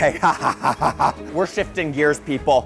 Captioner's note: laughs eagerly